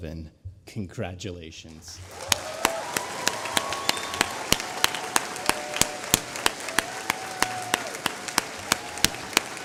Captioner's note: applause